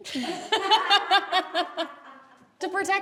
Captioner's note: group laughs